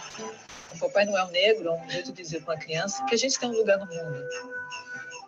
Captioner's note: speaks Portuguese